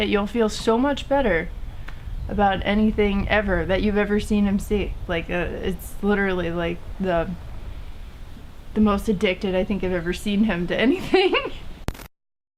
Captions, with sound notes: you'll feel so much better about anything ever that you've ever seen him see. Like, it's literally like the... The most addicted I've ever seen him to anything. (laughs)